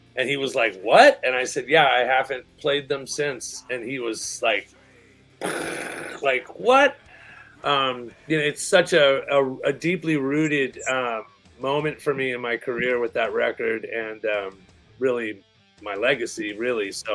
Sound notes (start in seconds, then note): 5.4 mind-blowing sound